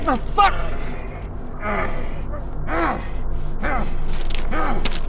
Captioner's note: Dogmouth growling; feet clacking on stones